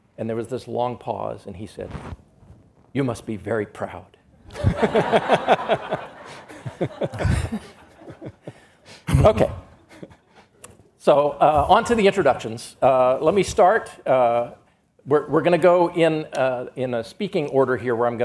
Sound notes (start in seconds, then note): 4.5 audience laughs